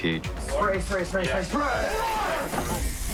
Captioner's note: loud groan, blood splattering